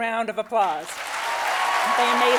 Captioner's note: audience applauding